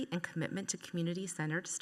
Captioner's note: none